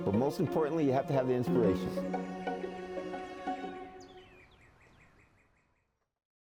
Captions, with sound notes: but most importantly, you have to have the inspiration. (birds chirping)